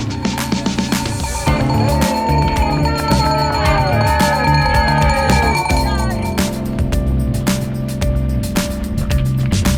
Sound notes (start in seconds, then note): 1.5 bells ringing and people cheering